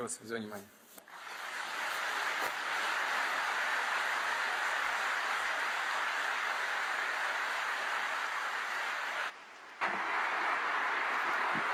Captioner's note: applause